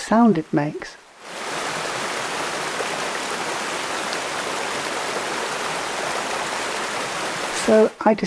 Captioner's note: sound of rushing, turbulent water